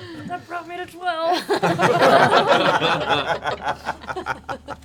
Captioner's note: laughter